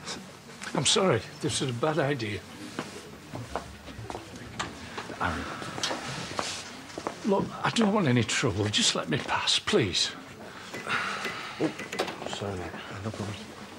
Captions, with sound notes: I'm sorry! This was a bad idea. Aaron. Look, I don't want any trouble. Just let me pass. Please! *Aaron sighs* Oop! Sorry mate. Yeah, no problem.